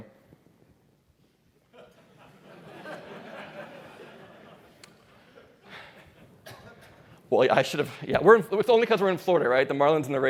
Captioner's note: laughter